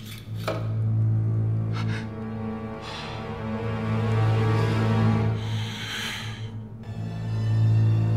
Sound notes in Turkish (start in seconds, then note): 0.5 Nefes sesi; 5.3 Nefes sesi